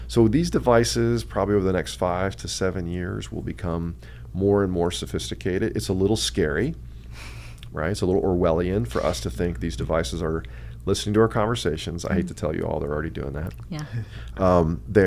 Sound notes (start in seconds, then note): 7.2 laughs quietly